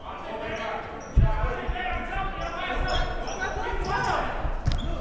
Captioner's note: players murmuring